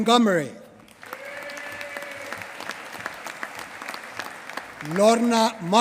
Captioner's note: applause